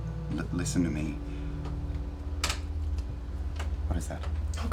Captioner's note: creaking